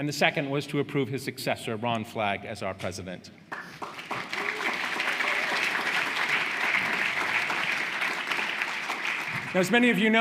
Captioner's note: applause